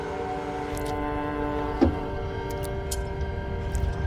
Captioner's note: blood drips